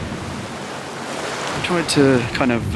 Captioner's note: waves crashing